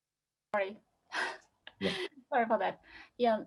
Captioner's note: laughing